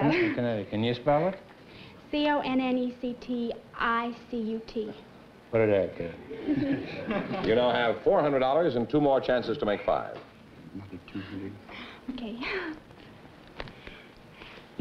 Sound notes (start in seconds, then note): 10.1 whispering